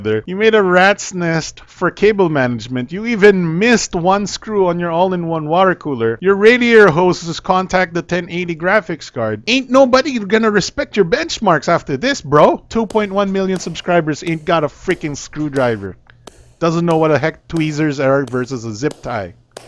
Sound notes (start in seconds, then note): 14.2 slow clap